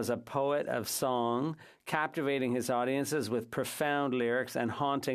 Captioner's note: speaking French